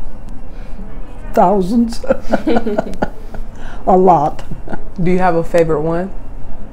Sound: laughing

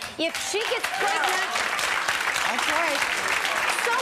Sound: clapping

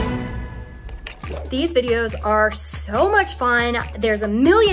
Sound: bell dinging; air swooshing

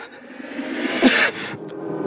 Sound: cough

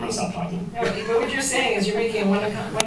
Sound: laughs

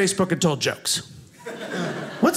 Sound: audience laughing

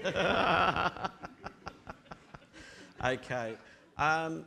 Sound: audience laughing

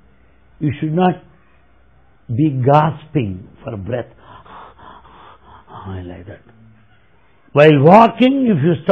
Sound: demonstrates panting for air

